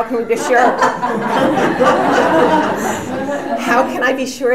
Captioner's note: audience laughs